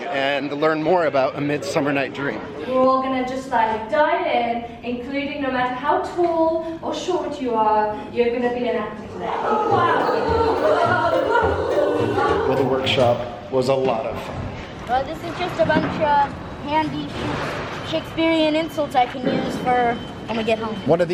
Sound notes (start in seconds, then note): 9.0 participants chattering; 9.4 playful music